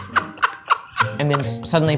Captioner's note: laugh